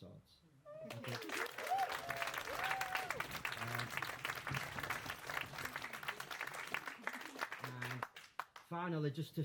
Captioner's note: applause